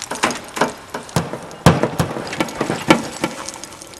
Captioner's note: banging